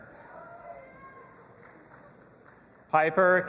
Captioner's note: audience applauding and cheering